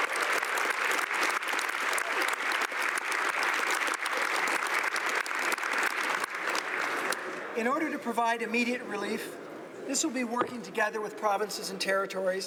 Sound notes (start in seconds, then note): 0.0 applause